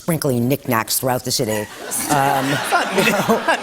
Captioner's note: laughter